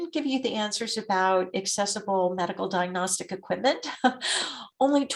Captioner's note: chuckles